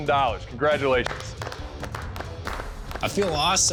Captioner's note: applause